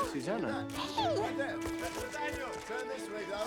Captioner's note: cameras clicking